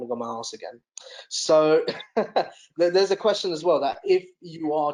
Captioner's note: chuckles